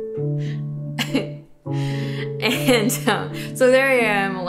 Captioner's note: chuckling